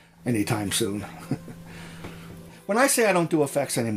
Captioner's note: laughs